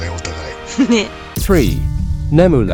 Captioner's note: laughs